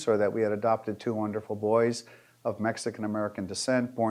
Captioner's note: none